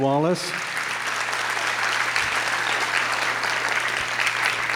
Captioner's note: audience claps